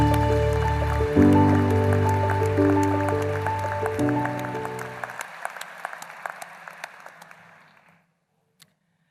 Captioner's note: applause